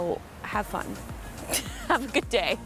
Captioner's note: laughs